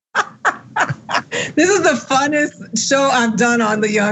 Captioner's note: laugh